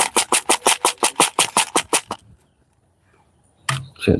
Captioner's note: glass flakes shaken